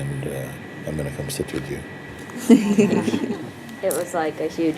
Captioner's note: Lachen